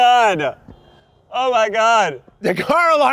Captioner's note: car alarms honking